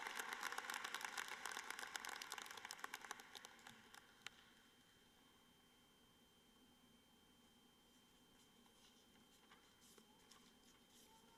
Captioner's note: applause